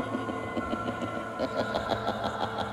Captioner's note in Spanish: Risa malvada